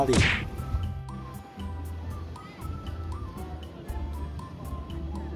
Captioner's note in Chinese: 輕軌緩緩駛過